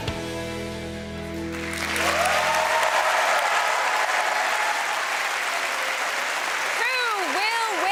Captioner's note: applause